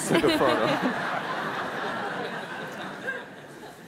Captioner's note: laughing